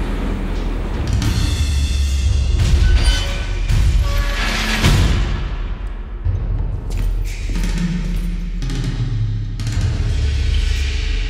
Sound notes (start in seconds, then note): 2.6 door creaks